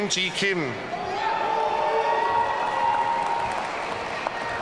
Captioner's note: audience cheering